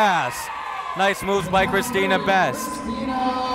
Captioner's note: cheering